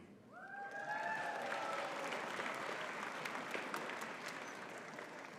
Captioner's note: audience cheering and clapping